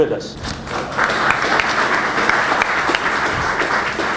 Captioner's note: applause